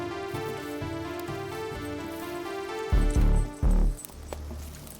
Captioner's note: chains rattling